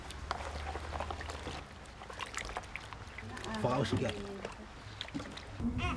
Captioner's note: foreign Language; water Splashing